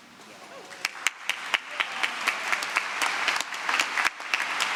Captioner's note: applause